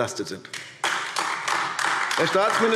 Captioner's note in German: Beifall AfD